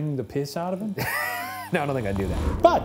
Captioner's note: chuckles